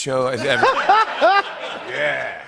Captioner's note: laughter